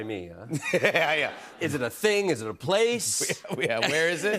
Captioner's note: laughs